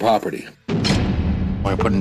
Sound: jail door slamming sfx

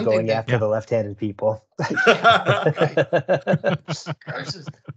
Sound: laughter

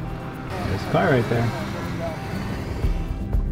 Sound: male Voice; gentle music

